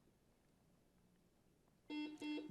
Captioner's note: buzzer buzzes